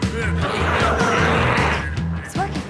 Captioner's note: glowzies growling